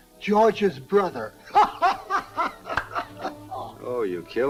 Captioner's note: Tim chuckling